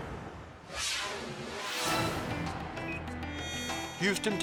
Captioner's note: crane booming; fast whooshing